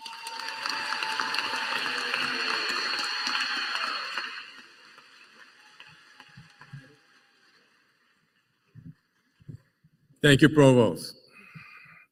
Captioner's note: applause